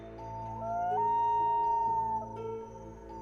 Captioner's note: wolf howling